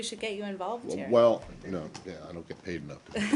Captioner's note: laughter